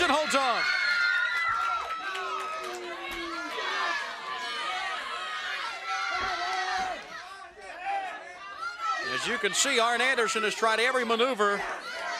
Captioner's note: crowd chatter